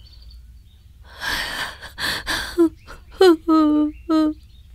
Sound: crying

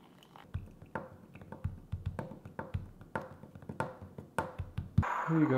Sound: liquid pouring; fingers rapping on table

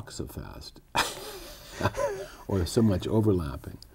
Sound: laughter

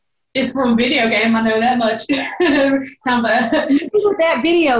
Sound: belly laughing

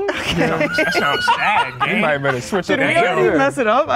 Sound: laughing

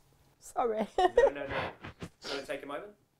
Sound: tearful; male Voice

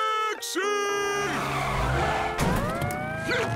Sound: screeching

